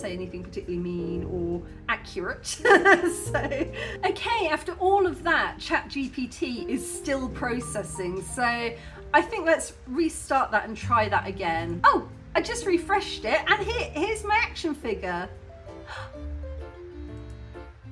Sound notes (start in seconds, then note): 15.9 gasp